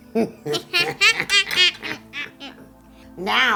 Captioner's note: both laughing